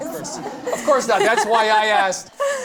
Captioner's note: laughter